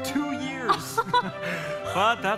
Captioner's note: Anna and Hans laugh